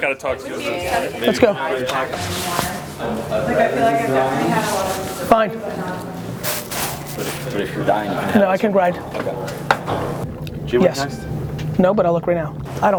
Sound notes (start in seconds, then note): 0.0 people chat; 6.6 packet crinkles